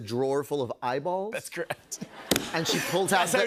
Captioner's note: laughter